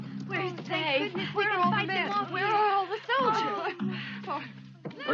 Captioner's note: women talking in confusion